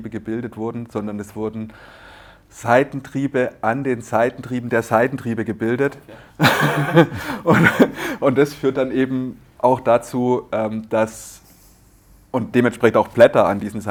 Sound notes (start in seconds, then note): 8.9 laughter